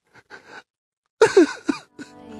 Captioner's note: sobs Again